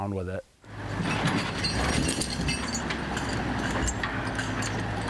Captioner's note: engine roaring